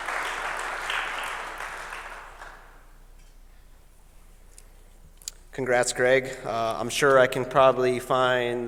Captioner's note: applause